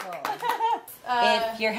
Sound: laughing

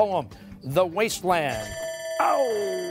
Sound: bell rings

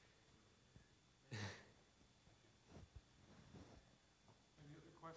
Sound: laughs

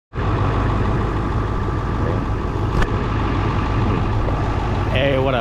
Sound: car engine

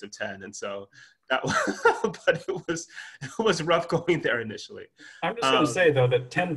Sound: laughs

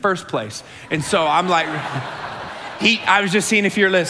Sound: congregation laughing

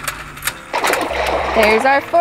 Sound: water splashes

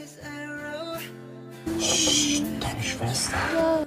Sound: mocking

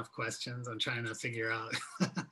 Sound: laughs

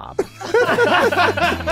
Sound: all laughing

